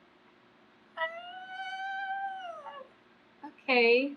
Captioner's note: squeals